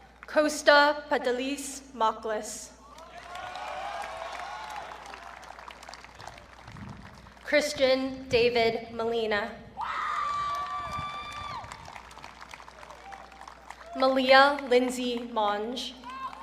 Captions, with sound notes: Kosta Pantelis Mocklis. (audience cheering) Cristian David Molina. (audience cheering) Malia Lindsey Monge.